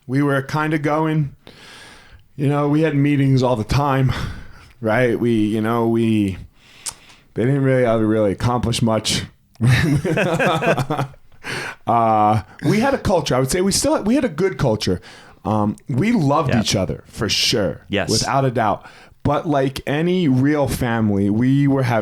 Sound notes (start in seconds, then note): 9.6 laughs